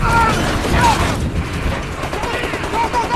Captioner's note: explosion